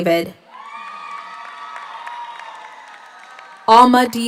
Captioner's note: audience cheers; audience applauds